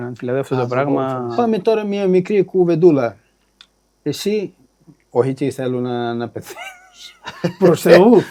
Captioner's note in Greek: γέλια